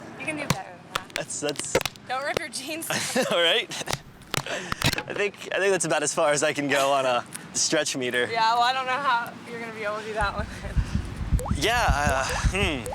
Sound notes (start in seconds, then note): 3.1 laughs; 4.0 laughing; 12.0 laughing